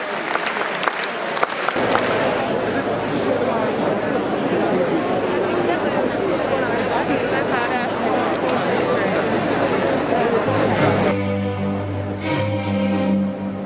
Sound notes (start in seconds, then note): 0.0 milling crowd